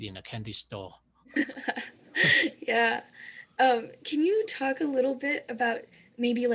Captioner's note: laughs